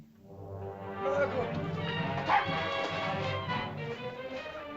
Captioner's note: dramatic music; Ohtao shouts; dramatic music